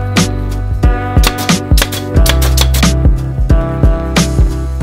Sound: nail gun pounding

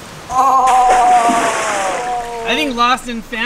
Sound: splash

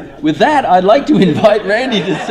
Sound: laughter

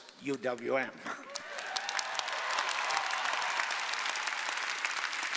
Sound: audience applauding

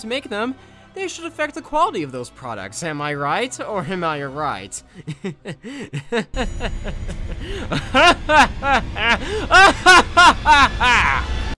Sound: laughter turns angry

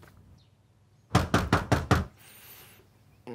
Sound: knock on the door

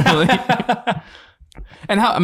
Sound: laughs

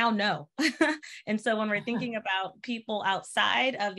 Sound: laughter

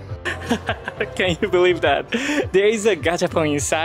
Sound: chuckles

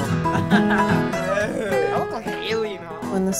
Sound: laughing

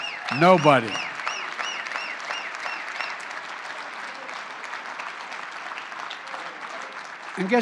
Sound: applause

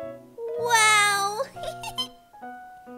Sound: laughs

